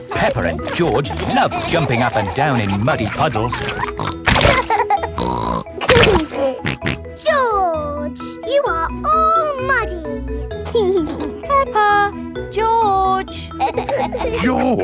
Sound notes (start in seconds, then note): 4.5 laughs and snorts; 10.7 giggling